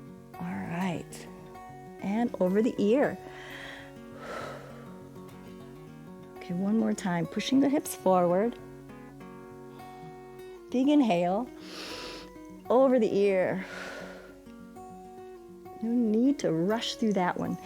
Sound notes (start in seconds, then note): 3.2 inhales and exhales; 11.6 inhales; 13.5 exhales